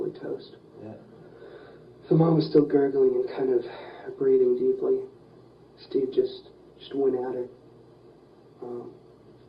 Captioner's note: sigh